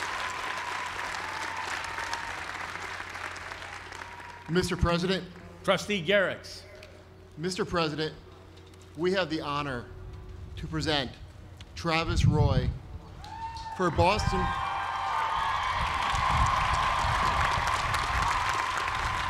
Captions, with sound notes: >> Mr. President. >> Trustee Garriques. >> Mr. President, we have the honor to present Travis Roy... (cheering)